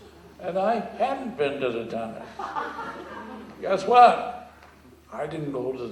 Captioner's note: laughter